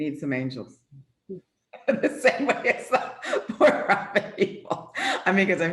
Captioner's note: laughs